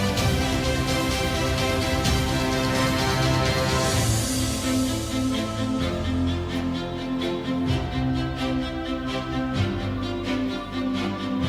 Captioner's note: applause